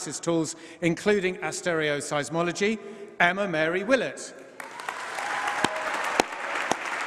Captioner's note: applause